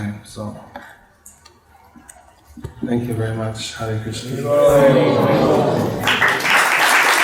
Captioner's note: applause